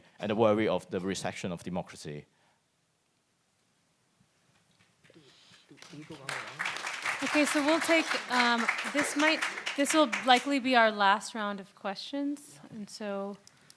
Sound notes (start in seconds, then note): 5.1 speaks in foreign language; 5.6 audience applauds